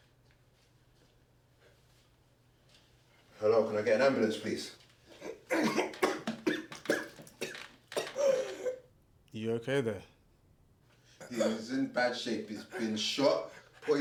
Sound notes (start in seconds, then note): 5.2 Larry coughs and splutters